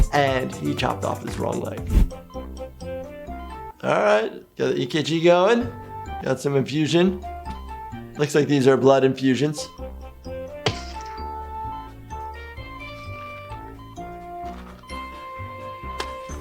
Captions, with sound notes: And he chopped off his wrong leg. (happy music) All right, got the EKG going. Got some infusion. Looks like these are blood infusions. (squish)